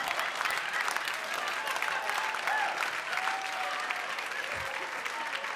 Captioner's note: audience cheers